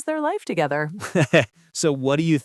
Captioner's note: laughs